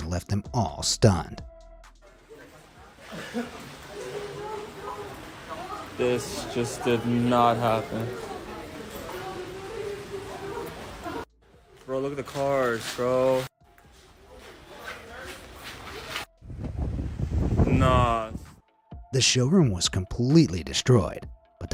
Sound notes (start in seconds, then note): 3.2 water running; 9.0 people chattering; 16.4 wind whirring